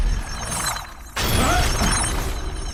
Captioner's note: yelling